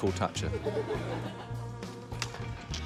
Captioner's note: laughter